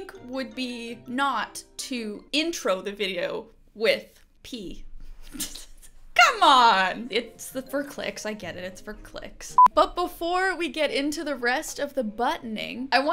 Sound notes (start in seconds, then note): 4.6 chuckling